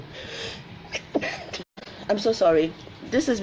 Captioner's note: sneezes